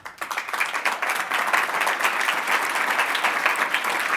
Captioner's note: applauding